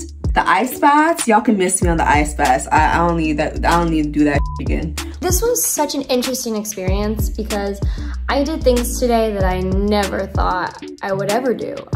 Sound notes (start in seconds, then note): 4.4 beep